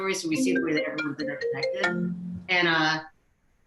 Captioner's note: phone ringing